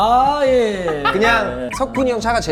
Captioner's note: laughing